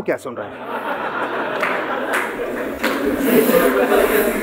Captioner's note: laughing